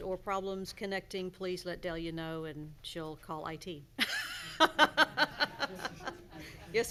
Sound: laughs

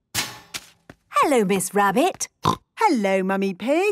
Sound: snorting

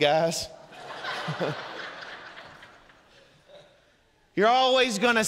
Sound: congregation laughing

